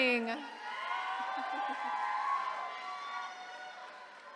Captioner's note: attendees cheering